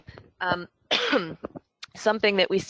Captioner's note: coughs